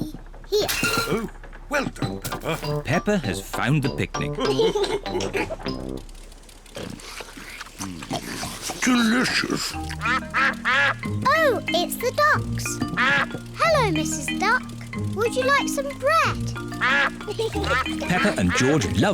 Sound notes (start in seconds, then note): 4.4 all laugh; 7.5 ducks quack